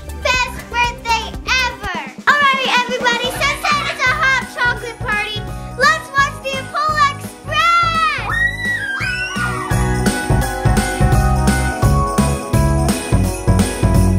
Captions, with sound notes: Best birthday ever. All right everybody, since this is a hot chocolate party let's watch the Polar Express! (kids cheering) (upbeat music)